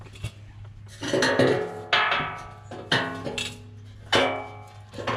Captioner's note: metal clanging